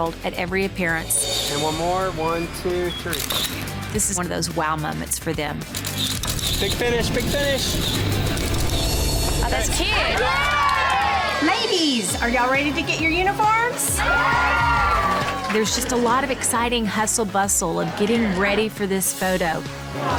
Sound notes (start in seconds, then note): 5.7 camera clicking; 8.3 upbeat music; 9.8 cheering; 13.9 cheering